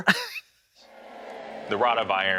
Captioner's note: Katya laughs